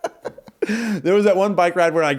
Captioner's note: laughing